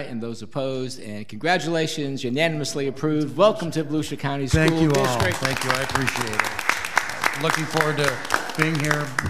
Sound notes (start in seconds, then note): 4.5 people clap